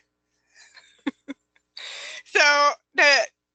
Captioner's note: chuckles